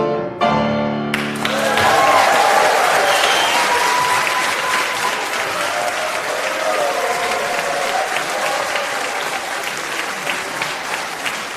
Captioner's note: applause